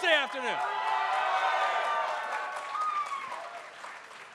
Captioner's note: cheering